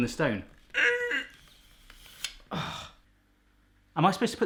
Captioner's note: grunts